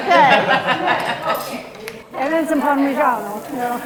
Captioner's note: all laughing